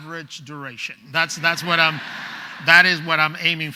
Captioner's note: laughing